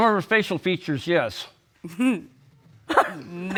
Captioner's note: laughter